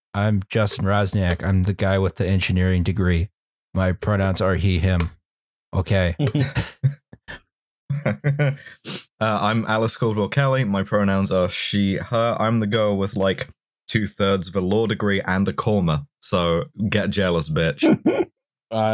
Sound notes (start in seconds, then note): 7.9 laughs slightly